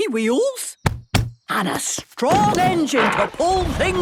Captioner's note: thumping